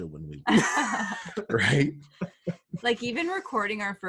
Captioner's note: laughter